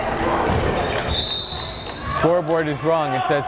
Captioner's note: whistle blares